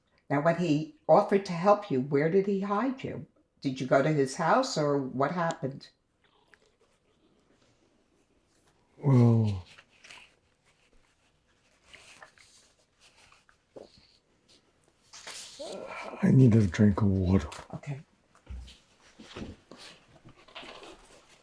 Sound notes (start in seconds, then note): 9.8 pauses 6 seconds; 18.3 pauses 8 seconds